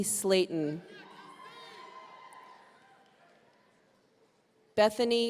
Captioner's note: audience cheering